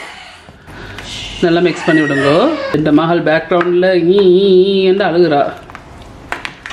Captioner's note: in background my daughter is crying